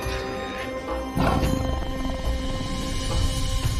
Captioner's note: tiger snarls